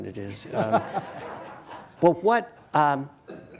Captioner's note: audience laughing